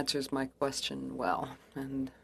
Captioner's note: speaking French